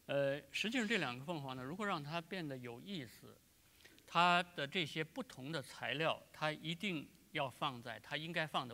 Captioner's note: speaking in Chinese